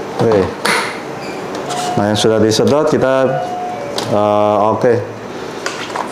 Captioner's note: installing damper sound; doorbell sound; installing damper sound